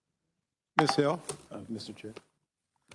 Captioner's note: whispers